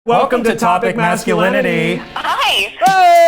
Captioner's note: in Unison